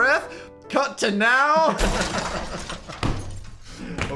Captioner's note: metal crashing; hand thuds